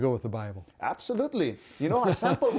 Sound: laughs

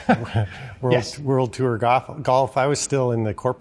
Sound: chuckling

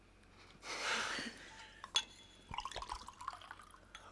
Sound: giggling

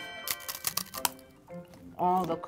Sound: snack crunching

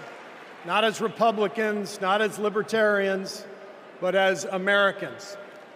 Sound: applause

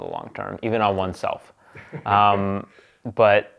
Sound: laughs

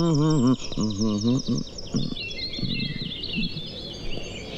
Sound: birds Chirping

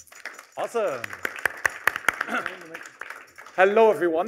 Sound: applause

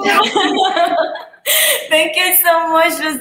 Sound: laughs

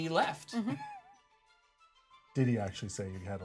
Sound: speaker chuckles

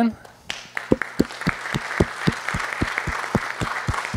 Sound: applause

